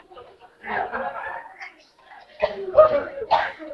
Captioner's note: much laughter